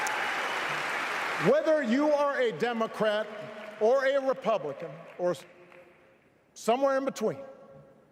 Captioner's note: applause